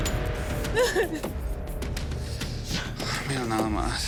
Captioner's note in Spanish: Sollozos